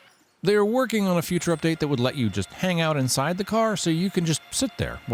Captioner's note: machinery whirring